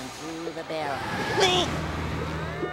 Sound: groaning

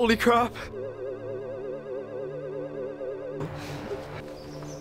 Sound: UFO Sound

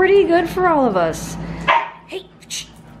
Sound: Kira barks

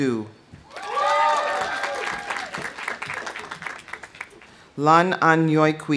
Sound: audience cheering; audience applauding

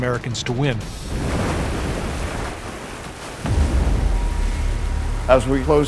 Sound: crashing waves

